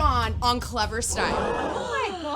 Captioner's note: audience gasping